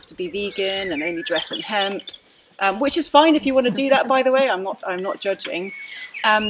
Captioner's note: laughter